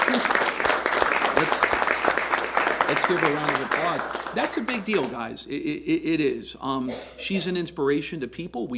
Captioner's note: applause